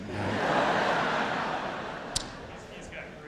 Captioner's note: audience laughs